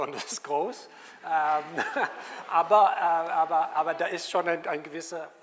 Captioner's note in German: und Publikum lachen